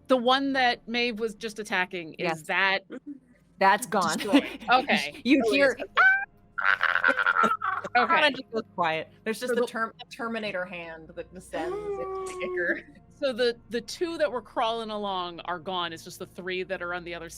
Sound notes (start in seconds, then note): 6.6 quietly screams